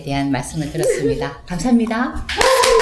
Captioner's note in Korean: 예~~ 짝짝